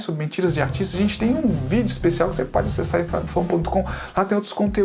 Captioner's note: only Portuguese